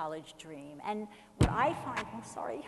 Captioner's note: loud thump from microphone